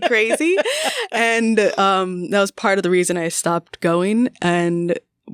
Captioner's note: laughter